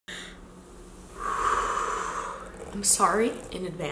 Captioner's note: exhaling